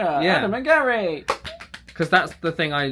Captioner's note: clapping